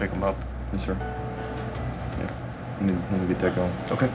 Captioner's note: murmuring